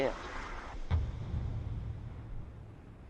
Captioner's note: percussive thud reverberates